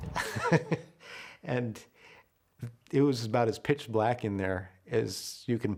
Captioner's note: laughter